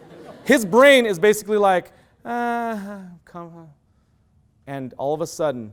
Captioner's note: loud laughter; sigh